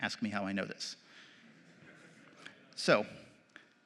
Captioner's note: laughter